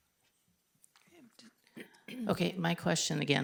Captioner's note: speaking faintly